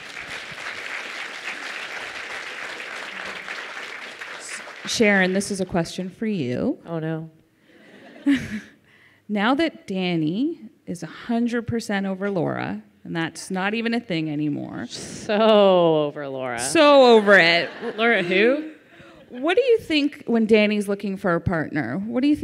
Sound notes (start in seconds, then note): 0.0 audience applauds; 7.7 laughter